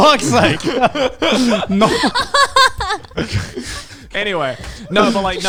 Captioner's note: everyone laughing